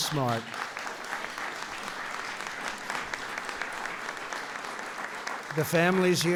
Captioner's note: applause